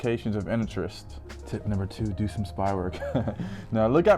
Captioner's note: chuckles